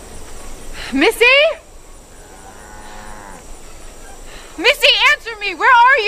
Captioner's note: sighs